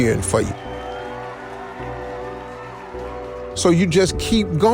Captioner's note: people cheering